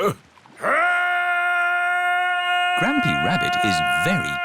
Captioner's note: shouting